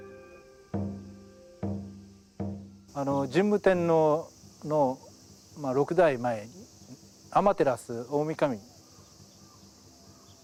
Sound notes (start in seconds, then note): 0.6 drumbeat thumping; 3.3 speaking in Japanese